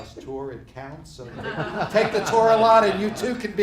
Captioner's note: laughing